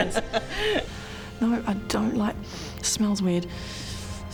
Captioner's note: sniff